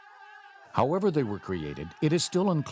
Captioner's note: voiceover